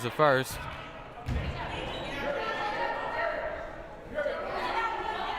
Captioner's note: crowd murmuring